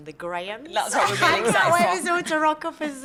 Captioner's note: laughter